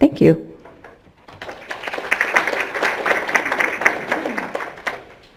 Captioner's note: audience applause